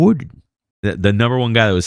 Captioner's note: uh